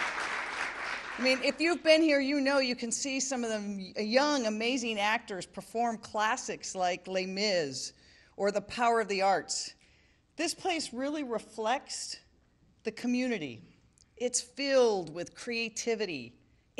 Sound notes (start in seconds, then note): 2.2 applause